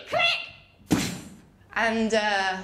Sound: poof!

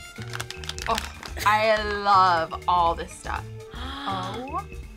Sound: React gasps

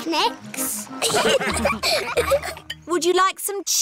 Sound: laughter

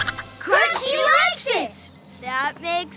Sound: squeaking

